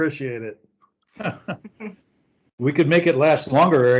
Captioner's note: people chuckle